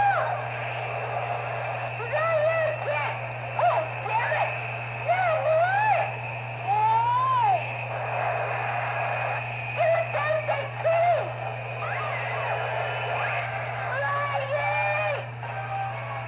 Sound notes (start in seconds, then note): 6.3 Luxo Jr. Groans